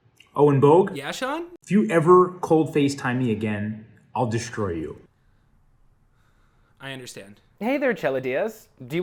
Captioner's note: none